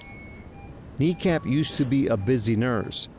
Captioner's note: controls beeping